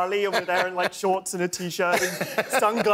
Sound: laughter

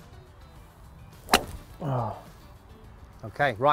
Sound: golf Ball Being Hit

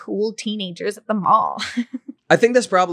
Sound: laughing

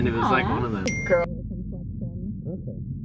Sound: phone dings

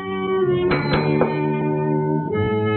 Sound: call bell rings

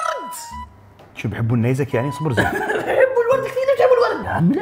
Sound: laughs

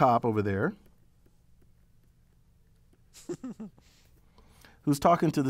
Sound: laugh

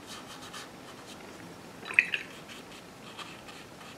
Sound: rinsing sound

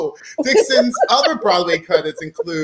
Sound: laughing

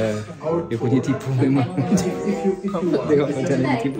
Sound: laugh

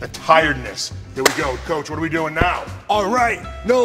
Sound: claps

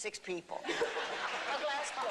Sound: laughter

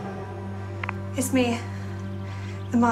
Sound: click

